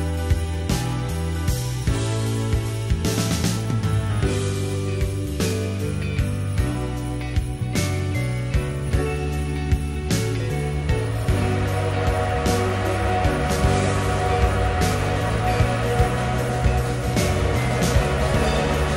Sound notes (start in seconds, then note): 11.1 distant steam whistle